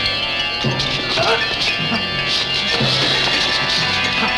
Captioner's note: groaning